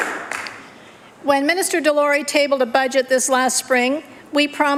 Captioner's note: applause